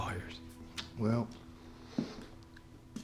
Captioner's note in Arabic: لهجة اسكتلندية; خطوات